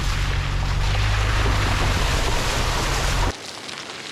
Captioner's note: puddle sploshing